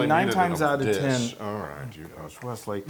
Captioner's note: laugh